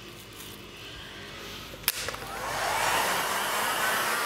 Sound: switching on and whirring of the hair dryer

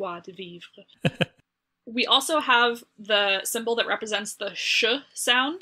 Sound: laughs

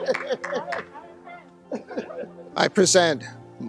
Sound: laughter

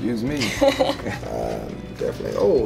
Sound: laughs

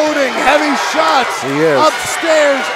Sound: crowd cheers

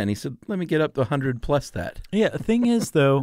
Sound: laughs

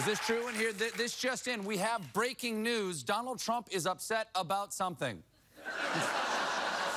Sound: cheering

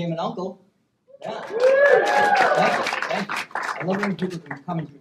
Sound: applause

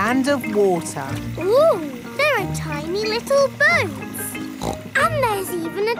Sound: snorts

